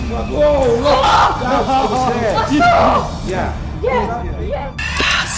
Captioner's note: screams